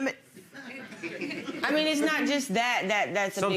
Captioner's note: audience chuckles